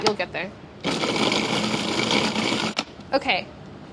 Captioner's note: food processor whirs